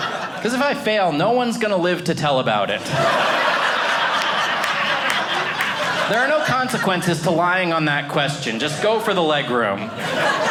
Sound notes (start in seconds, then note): 0.0 audience laughing; 2.6 audience laughing